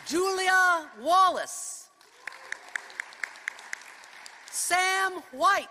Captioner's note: applause